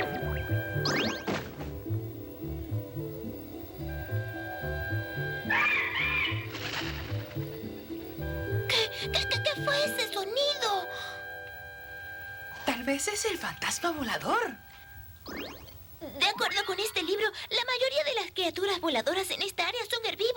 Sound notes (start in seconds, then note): 5.4 bird crying